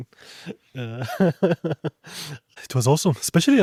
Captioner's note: laughs